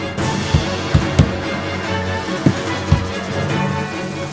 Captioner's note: banging